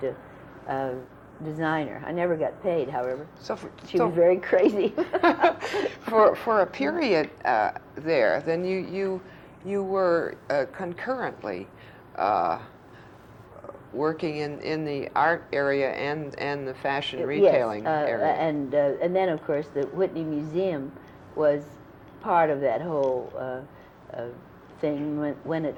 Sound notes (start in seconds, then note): 4.9 laughter